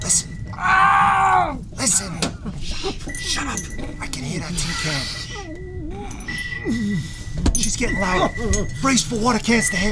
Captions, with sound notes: [yelling loudly] Listen! Sssh! Shut up! I can hear that tin can! [radar continues to blip] She's getting louder. Brace for water cans to hit!